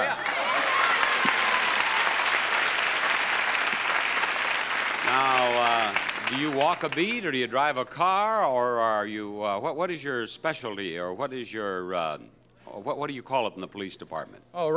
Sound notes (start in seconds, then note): 0.0 applause